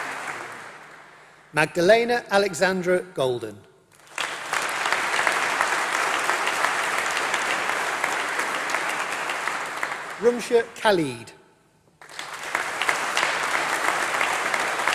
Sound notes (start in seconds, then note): 4.4 applause; 12.0 applause